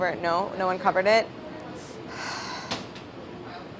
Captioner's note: sighing